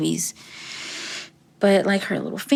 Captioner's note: deep breathing